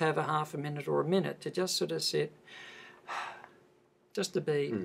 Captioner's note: takes a breath